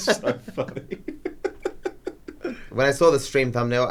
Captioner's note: laugh